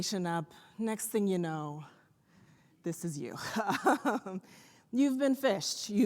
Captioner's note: laughs